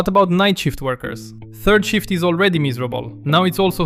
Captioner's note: nervous